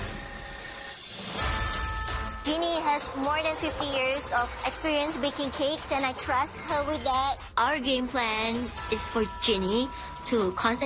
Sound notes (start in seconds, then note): 0.0 mixer whirs